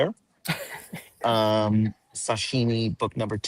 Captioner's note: chuckles